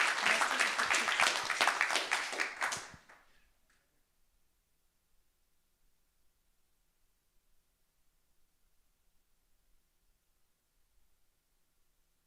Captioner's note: applause